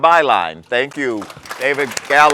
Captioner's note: applause